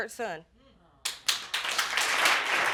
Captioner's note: audience applauding